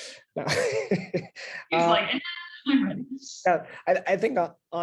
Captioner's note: laugh